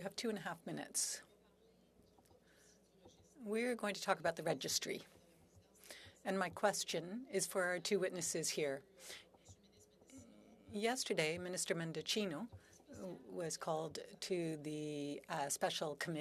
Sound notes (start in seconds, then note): 6.7 speaking French